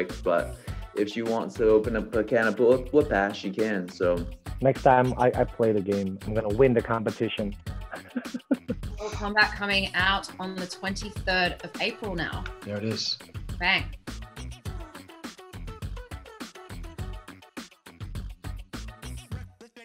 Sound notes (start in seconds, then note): 7.8 Joe giggles